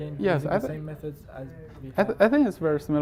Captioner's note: faintly speaking